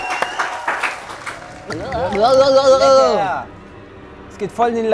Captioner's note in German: Pfiffe; Schluckgeräusche, ulkige Laute